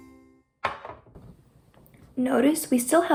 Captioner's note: tray clanging